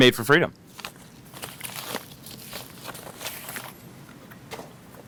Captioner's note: package crackles